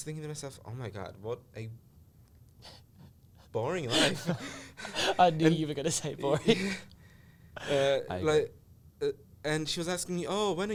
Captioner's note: laughs